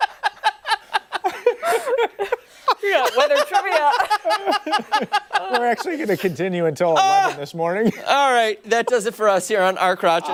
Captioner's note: laughter